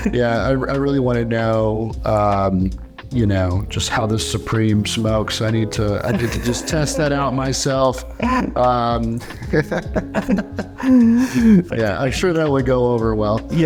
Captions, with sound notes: - Yeah, I really want to know, you know, just how the Supreme smokes, I need to just test that out myself. (both laugh) Yeah, I'm sure that would go over well.